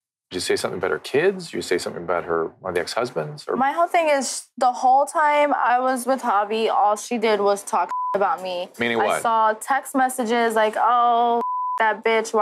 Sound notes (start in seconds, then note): 7.8 beep; 11.3 beep